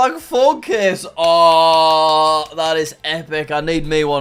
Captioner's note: clapping hands